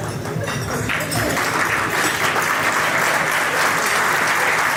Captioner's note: audience cheers